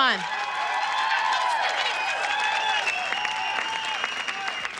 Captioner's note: audience applause